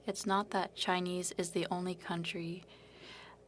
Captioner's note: speaking French